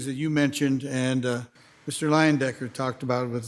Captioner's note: none